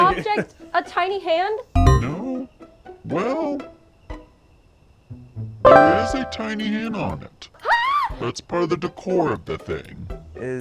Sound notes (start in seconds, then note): 0.0 chattering; 7.6 shrieks